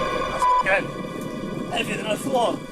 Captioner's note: beep